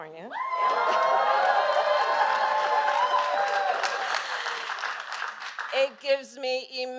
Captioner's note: applause